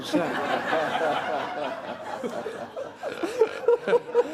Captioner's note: laughter